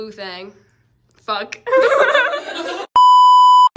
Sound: laughing

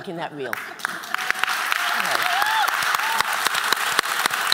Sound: applause

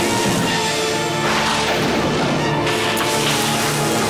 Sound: thundering

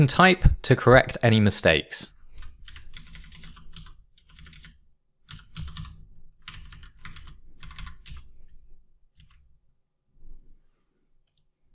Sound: sound of typing on a keyboard

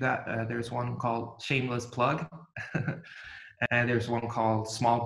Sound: giggles

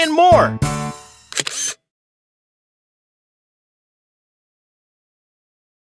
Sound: SFX: Camera Shutter

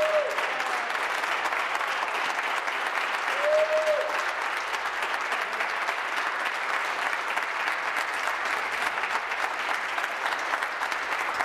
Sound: applause

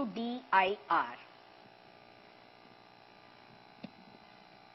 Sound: motor

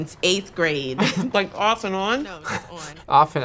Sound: laughs

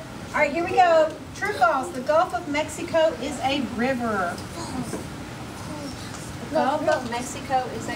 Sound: students discussing answers

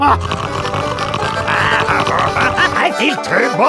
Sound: healing noises

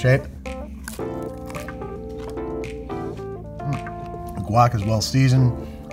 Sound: chips crunch

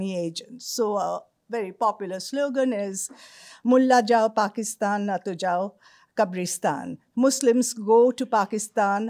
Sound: non-english speech

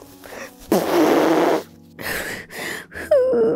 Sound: blows nose

